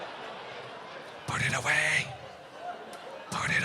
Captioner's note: whispers